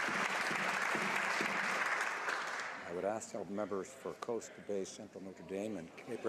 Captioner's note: some Applause